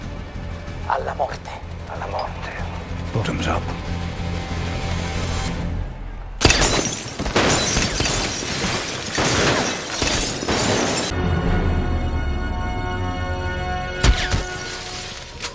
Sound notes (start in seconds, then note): 6.4 gunshot, glass breaking; 6.4 gunshots, ricochets and glass breaking repeatedly; 14.0 suppressed gunshot, glass breaking